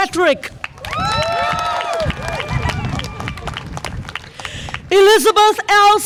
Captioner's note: audience applause and cheer